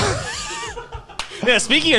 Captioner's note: everyone laughs